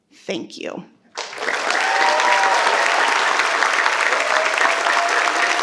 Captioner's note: participants applaud